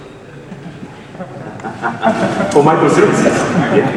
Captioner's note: laughs